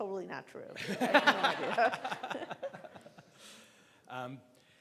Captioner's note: laughing